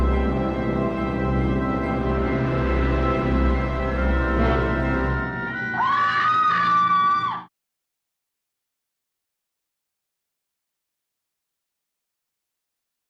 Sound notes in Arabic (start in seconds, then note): 5.2 صراخ; 5.4 موسيقى درامية